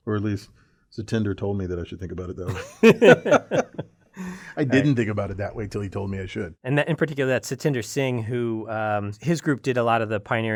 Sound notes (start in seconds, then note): 2.5 laugh